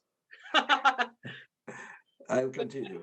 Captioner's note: laughs